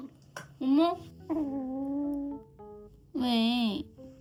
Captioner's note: growl